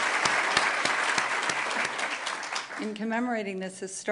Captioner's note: applause